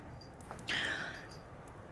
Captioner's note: inhales